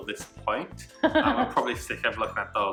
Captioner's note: laughing